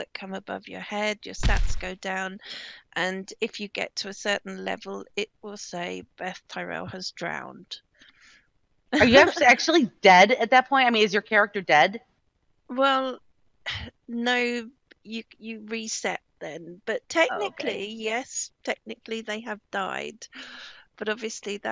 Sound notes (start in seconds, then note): 9.0 laughing